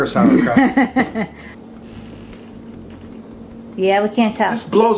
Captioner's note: woman laughs